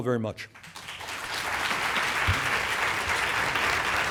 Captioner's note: applause